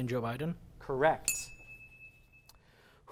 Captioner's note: ding